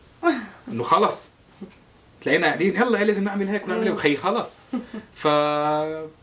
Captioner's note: haha